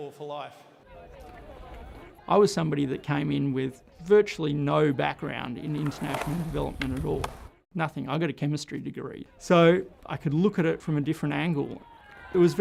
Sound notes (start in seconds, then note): 5.5 skateboard rolling